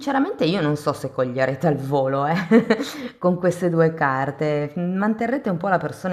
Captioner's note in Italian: risate